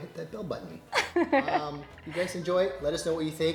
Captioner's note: laughing